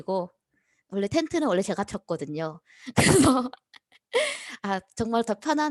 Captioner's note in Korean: 웃음